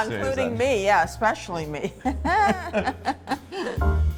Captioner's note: laughs